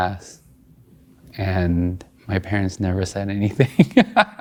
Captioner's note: laughing